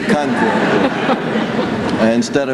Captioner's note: laughter